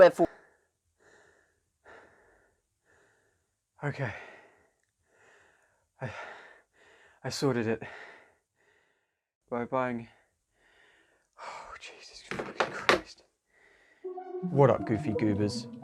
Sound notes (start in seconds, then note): 1.0 heavy breathing; 10.6 heavy breathing; 12.3 drops phone